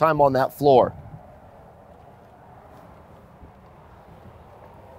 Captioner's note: traffic whirring